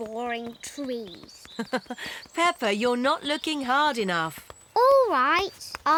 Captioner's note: laughs